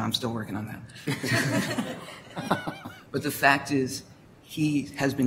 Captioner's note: laughter